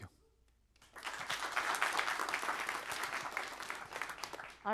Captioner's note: applause